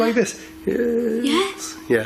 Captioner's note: groans